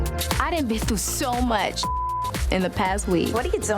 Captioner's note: beep